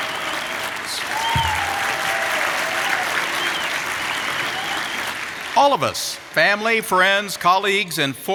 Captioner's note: applause